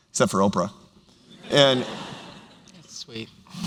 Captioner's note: laughter